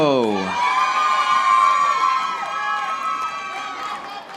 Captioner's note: audience applauding